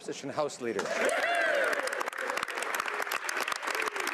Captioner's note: speaking French